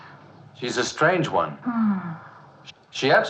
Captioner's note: Mrs. Thomas sighs